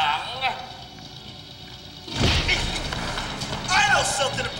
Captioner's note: rebel screaming; rebel groaning